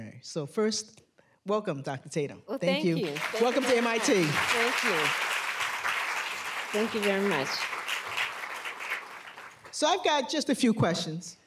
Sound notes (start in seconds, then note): 2.7 applause